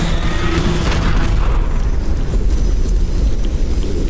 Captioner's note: loud crashing stab; large explosion